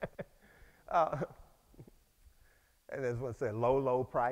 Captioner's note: laughs